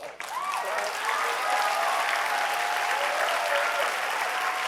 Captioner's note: audience applauding